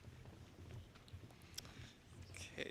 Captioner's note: none